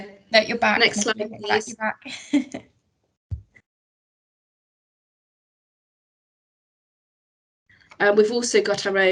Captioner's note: laughs